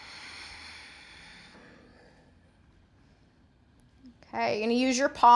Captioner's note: breathing sounds